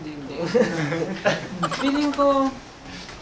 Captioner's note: giggles